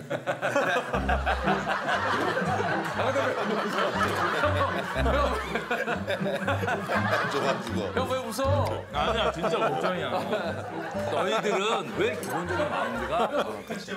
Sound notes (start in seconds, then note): 5.9 laughing hard